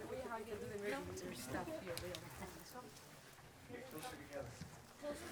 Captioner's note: audience chatting